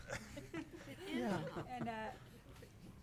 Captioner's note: all laughing